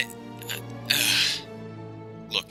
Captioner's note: sighs